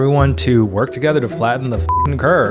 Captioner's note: beep